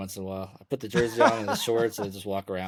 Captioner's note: laughs